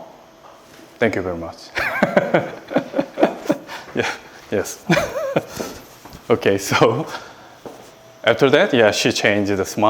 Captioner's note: laughs